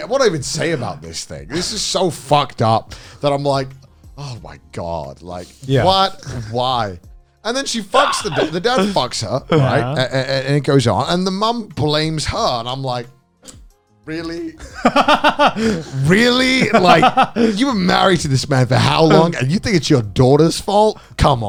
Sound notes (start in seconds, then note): 14.6 laughing